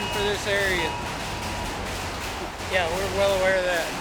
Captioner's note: raining hail on metal